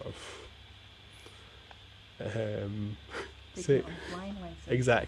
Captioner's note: laughs